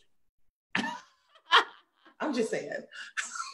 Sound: laughs

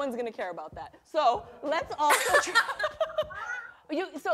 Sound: laughter

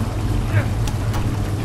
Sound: Joel grunts

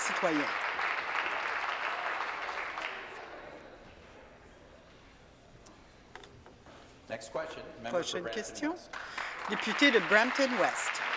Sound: applause

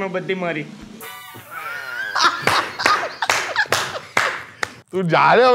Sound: both laugh

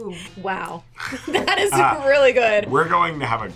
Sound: laughs

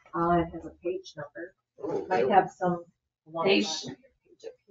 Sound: speaks faintly

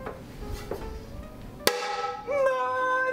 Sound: metal clanks

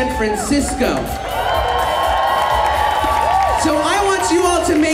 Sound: audience cheers

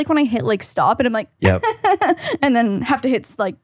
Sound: fake crying sounds

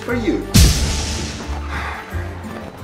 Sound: poof!

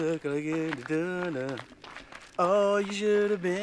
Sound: indistinct humming

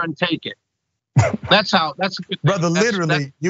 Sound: laugh

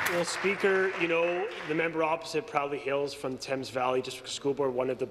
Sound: applause

